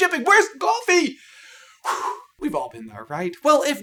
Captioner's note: exhale